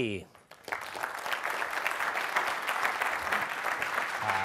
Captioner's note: audience applaud